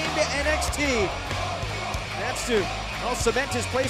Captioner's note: crowd cheering